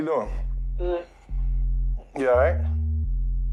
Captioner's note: on phone